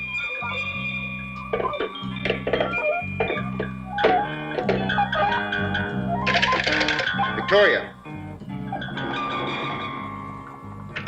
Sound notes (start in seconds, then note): 1.8 phone receiver clicks in cradle; 6.7 phone cradle rattles